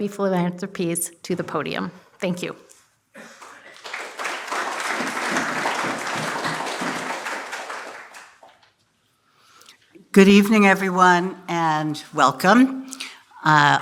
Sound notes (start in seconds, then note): 3.2 applause